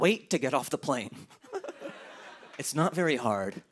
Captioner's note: laughter